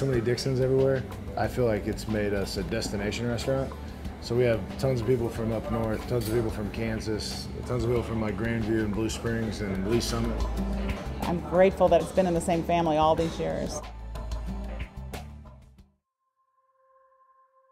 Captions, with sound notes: I feel like it's made us a destination restaurant. So we have tons of people from up north, tons of people from Kansas, tons of people from like Grandview and Blue Springs, and Lee's Summit. - [Voiceover] I'm grateful that it's been in the same family all these years. (thoughtful music)